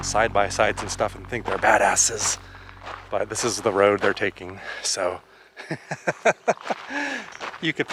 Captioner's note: laughter